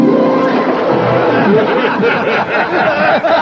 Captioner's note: all laugh